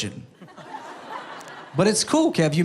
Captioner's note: people laughing